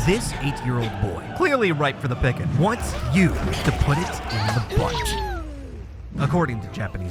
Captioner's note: slurping noises